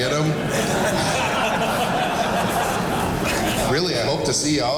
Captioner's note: audience laughing